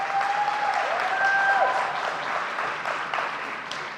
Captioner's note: audience cheering